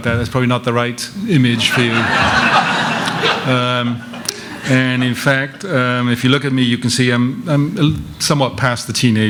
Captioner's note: laughter